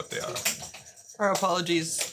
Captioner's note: ball jingling; ball thumping